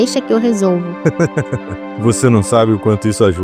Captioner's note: Guardian laughs